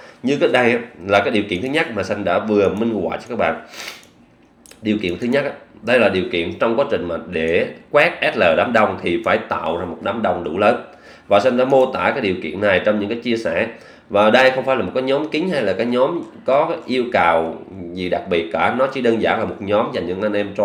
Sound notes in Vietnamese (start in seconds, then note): 3.6 khịt mũi